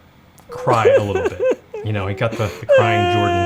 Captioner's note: crying